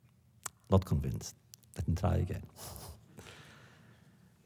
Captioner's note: laughs